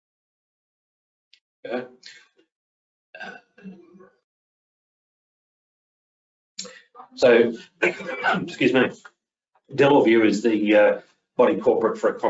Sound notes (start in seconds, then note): 7.2 coughing